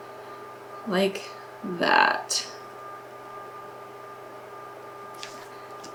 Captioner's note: machine humming